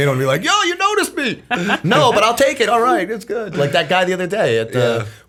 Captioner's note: laughter